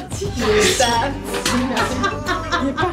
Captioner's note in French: Rires